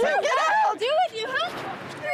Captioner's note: shouting